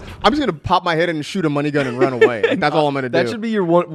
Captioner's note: laughs